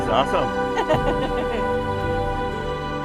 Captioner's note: laughter